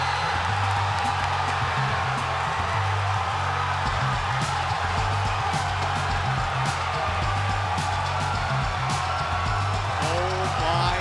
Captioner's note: crowd cheering